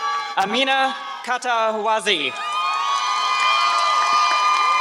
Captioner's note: applause